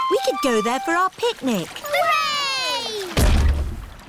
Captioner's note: peppa and george cheer; thud